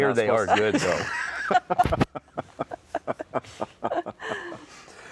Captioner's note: laughing